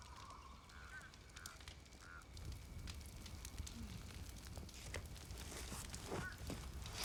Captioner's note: distant wildlife sounds